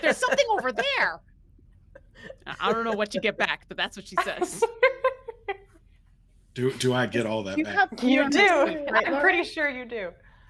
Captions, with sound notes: There's something over there." I don't know what you get back, but that's what she says. (person laughing) - Do I get all that back? - You do, I'm pretty sure you do.